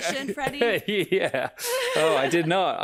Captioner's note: laughs